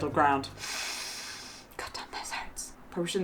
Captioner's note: inhales